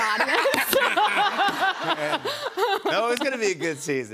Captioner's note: laughter